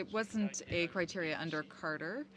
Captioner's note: speaking French